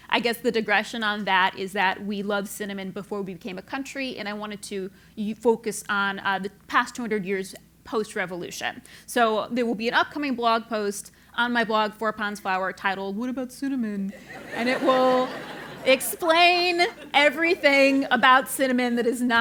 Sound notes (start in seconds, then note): 14.2 laugh